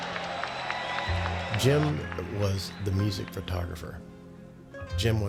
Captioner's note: cheers